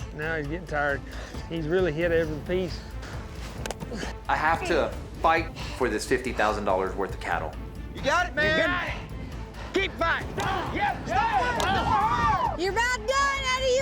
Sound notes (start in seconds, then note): 8.0 cowboys shout encouragement; 11.0 chopping wood, cowboys cheering